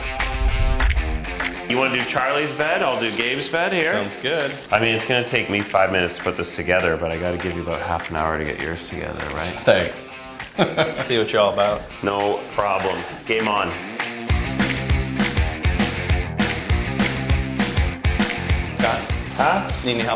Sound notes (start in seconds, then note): 0.2 upbeat music; 10.4 laughs; 14.2 upbeat music